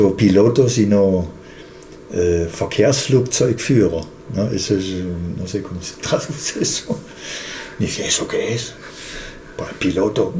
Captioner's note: German words